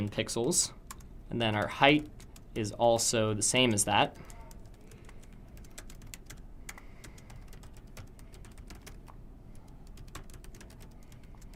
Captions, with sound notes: and that is in pixels and then our height is also the same as that. [Typing Noises] [Typing Noises] [Typing Noises]